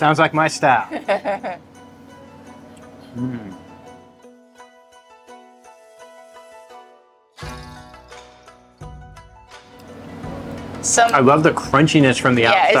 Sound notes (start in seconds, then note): 0.9 laughs; 2.7 savoring; 3.3 inspiring music